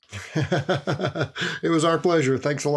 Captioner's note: laughs